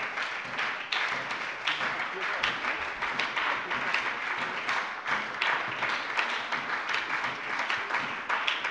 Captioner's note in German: Anhaltender Beifall bei der SPD